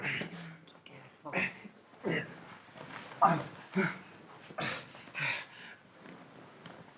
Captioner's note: Solent grunting continuing